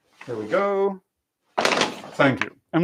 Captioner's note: thudding